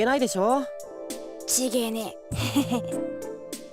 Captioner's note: awkward laugh